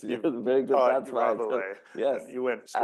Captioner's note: laughs